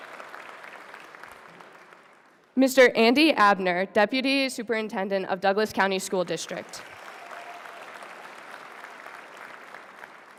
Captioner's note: applause